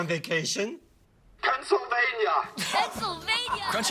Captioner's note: laughter